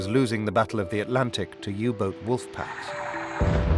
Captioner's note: explosion